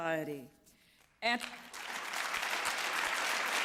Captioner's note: applause